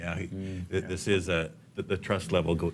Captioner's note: none